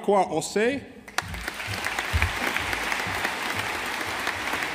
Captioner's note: audience applauding